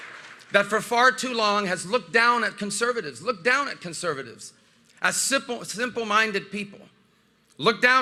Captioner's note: applause